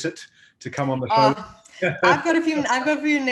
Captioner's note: laughs